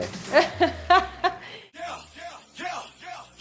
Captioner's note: chuckles